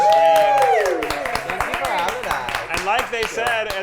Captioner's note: players cheering